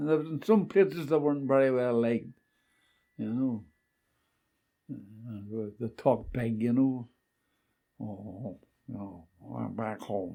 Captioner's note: imitating American